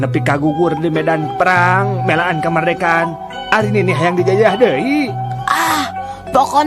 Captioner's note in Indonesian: berteriak